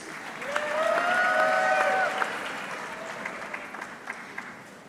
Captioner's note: audience clapping